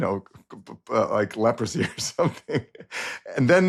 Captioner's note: laughs